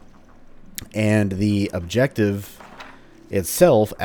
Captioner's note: journal opens